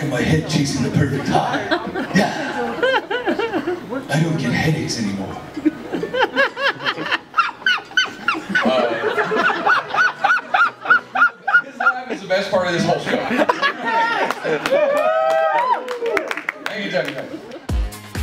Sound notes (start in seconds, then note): 5.5 laughter; 14.2 applause